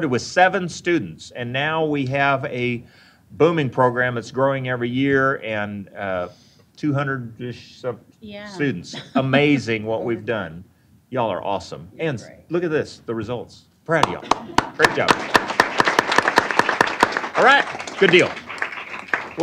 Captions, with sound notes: with 7 students, and now, we have a booming program that's growing every year and 200‑ish students. >> Yeah. >> Amazing what we've done. Y'all are awesome. Kids, look at this, the results. Proud of you. Great job. [APPLAUSE] >> All right, good deal.